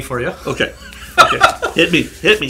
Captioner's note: man laughs